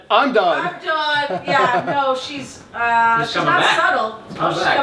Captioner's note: laughs